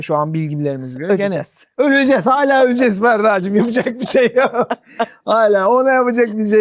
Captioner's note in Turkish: kahkaha